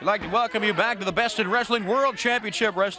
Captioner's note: crowd chatter